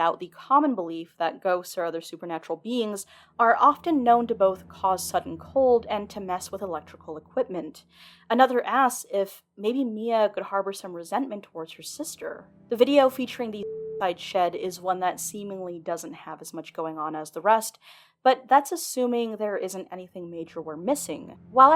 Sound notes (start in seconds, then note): 13.2 beeping